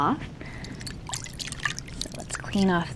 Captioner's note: water splashing